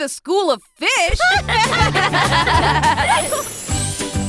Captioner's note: laughter